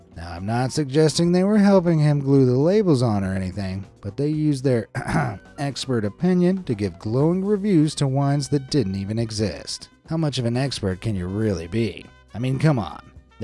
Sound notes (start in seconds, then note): 4.9 clears throat